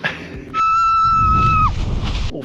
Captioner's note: person screaming